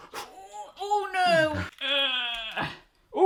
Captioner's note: lamaze breathing; wincing